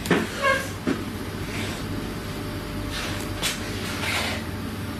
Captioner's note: chair scrapes